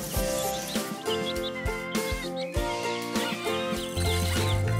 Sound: animal noises

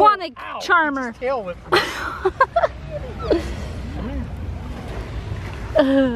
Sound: chuckles

